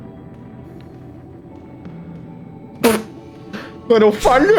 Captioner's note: pfft